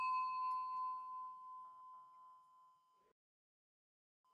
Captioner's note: bells chiming